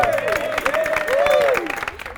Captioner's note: cheers and applause